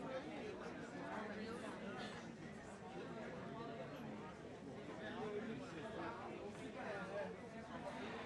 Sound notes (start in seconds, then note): 3.1 people chattering